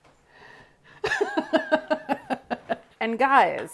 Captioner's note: laughs